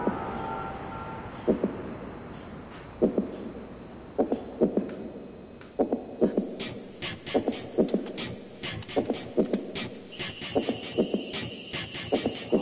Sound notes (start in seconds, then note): 3.0 heartbeat; 7.8 seatbelt clicks